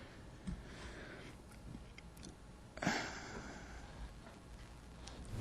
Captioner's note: sighing